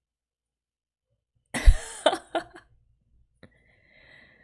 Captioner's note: laughs